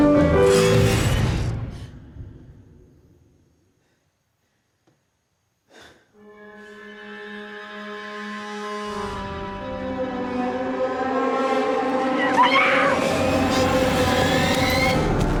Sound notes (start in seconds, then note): 4.6 music and chatter stop; 5.6 exhales; 9.3 eerie music; 11.9 screams